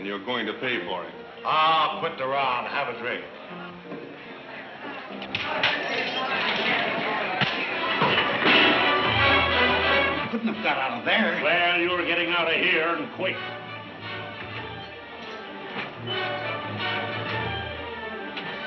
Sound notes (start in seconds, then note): 4.1 blows thudding; 4.1 men shouting; 7.2 dramatic music